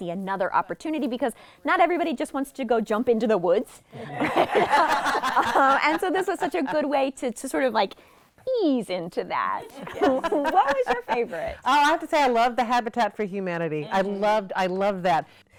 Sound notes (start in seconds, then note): 5.6 laughing